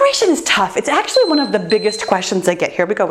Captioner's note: timer beeping